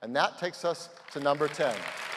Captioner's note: applause